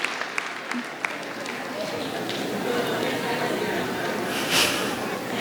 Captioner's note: audience chattering